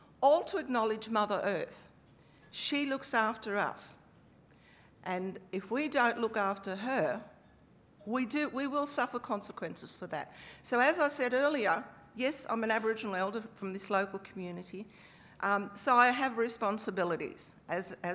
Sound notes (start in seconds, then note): none